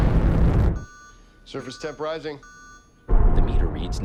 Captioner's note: alarm beeping